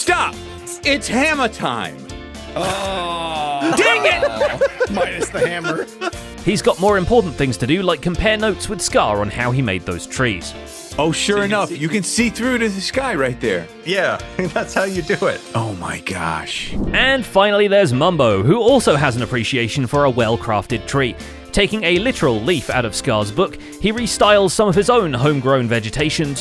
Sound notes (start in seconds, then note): 2.6 group laughing